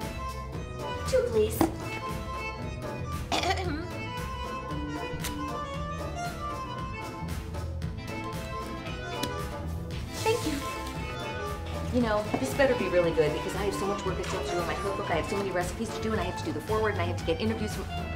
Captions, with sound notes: Two, please. [Clears throat] Thank you. [Speed talking] Ya know, this better be really good because I have so much work I still have to do on my cookbook, I have so many recipes to do and I have to do the foreword, I have to get interviews with-